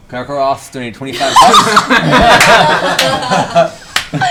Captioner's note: laughter